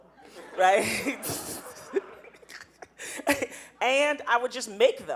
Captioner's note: laughing